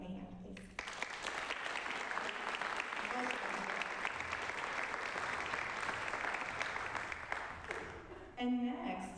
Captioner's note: applause